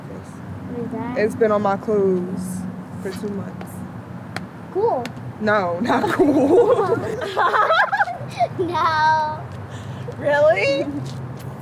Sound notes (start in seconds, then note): 5.8 all laugh; 5.8 laughs